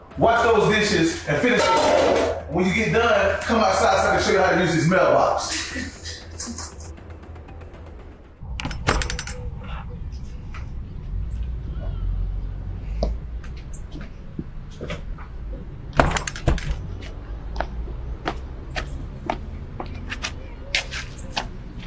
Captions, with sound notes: Wash those dishes and finish. When you get done come outside so I can show you how to use this mailbox. (door opening) (footsteps)